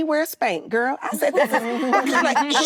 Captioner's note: actresses laughing